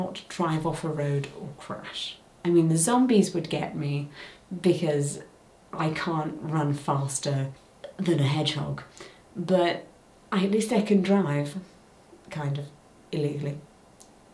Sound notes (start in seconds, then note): none